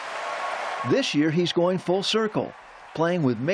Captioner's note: cheering